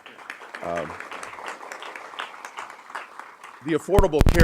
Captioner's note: audience clapping